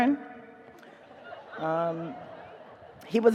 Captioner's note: audience laughs